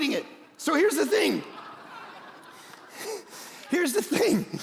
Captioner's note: congregation laughing